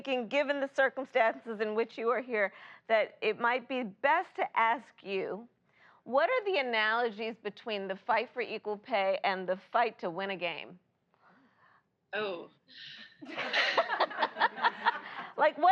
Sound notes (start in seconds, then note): 13.2 laughter